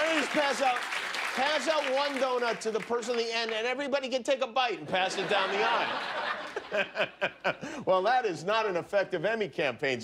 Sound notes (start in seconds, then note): 4.1 applause